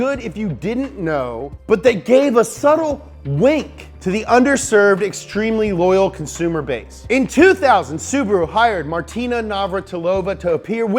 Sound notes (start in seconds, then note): none